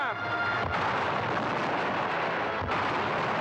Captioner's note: cannons firing; wall crashing in; cannons firing